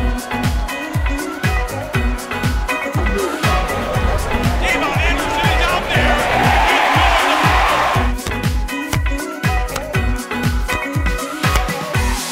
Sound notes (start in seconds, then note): 0.3 upbeat music; 6.2 crowd cheering; 9.5 upbeat music